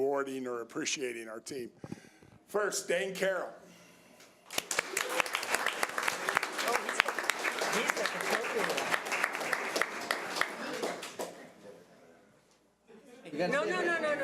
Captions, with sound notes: and rewarding or appreciating our team. First, Dane Caroll. (audience applause) - No, no, no, no, no.